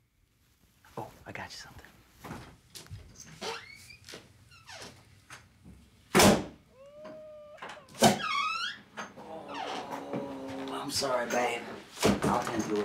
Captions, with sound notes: I'm gonna stay with Fred and Bill at the track. - Just like the old days? - Oh, I got you somethin'. (child crying)